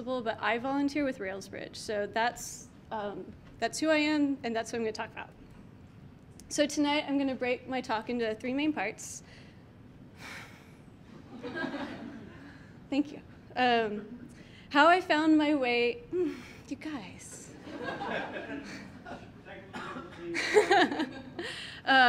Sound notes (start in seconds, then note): 11.2 audience laughs; 17.6 audience laughing; 19.8 laughs